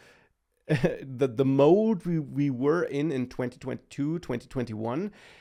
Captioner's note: laughs